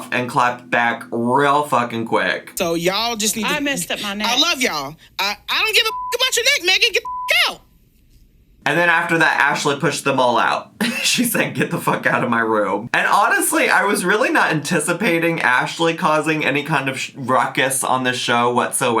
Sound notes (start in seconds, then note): 7.0 beep; 10.8 giggles